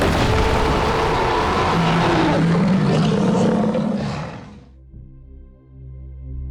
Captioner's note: Gina screaming; ground bursting; shark roaring; brooding music